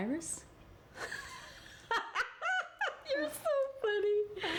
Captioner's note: loud Laughter